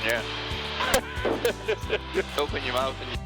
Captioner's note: laughing